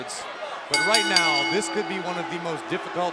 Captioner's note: bell ringing